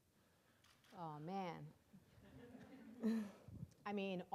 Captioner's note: audience laughing